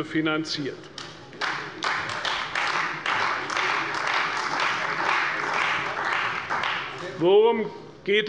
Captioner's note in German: Beifall bei der CDU